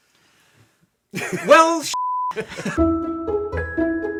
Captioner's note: laughing; beep; soft playful music